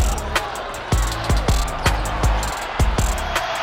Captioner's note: crowd cheering; crowd roaring